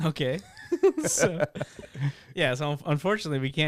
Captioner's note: laughing